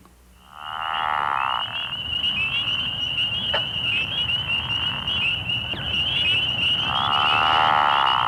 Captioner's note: pickerel frog call